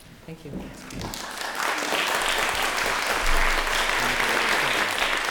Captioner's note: applause